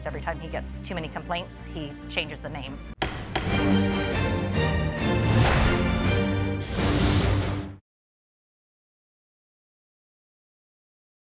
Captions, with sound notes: Every time he gets too many complaints, he changes the name. (gavel bangs) (dramatic music)